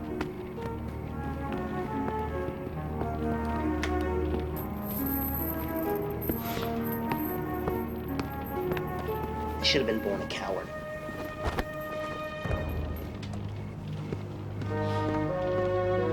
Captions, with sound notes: (chains rattling) I should have been born a coward. (cloth rustling) (footsteps)